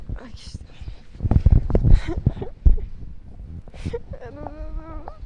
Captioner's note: giggle